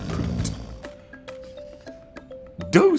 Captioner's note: snoring